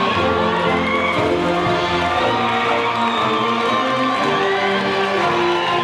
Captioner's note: audience cheering and applauding